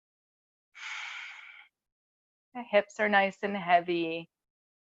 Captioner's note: breathes deeply